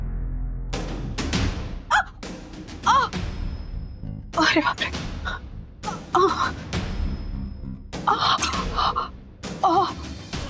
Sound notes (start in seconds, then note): 1.8 groaning